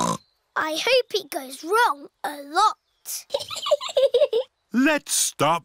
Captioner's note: snorts; chuckles